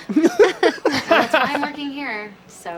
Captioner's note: laughter